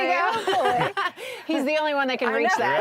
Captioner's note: laughs